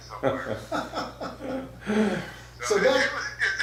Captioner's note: laughs